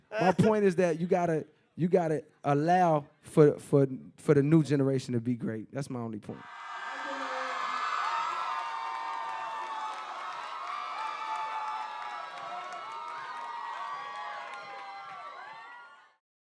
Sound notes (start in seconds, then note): 6.4 cheering